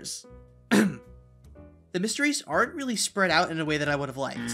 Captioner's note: ahem